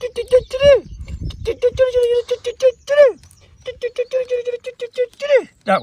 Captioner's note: imitating birds chirping